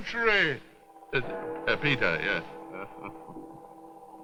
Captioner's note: stutters; chuckles